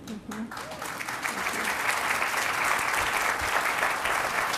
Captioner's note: applause